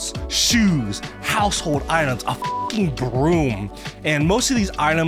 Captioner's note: beep